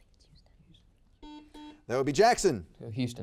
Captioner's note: buzzer beeps